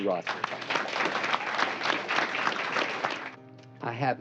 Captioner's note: applause